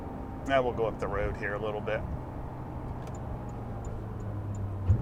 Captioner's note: turn signal beeping